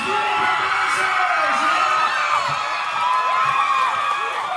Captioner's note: audience cheering